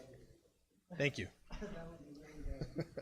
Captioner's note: laughs